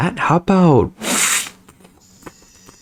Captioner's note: stutter Moment